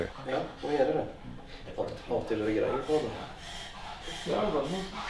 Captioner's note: speaking Norwegian